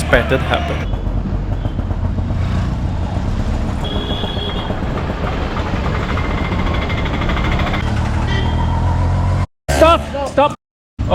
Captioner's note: traffic